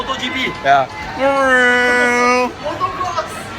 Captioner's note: interesting racing noises